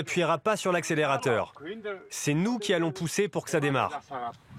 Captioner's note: foreign spoken audio